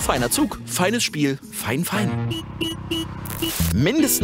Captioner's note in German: Hupen